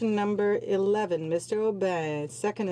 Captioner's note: speaking French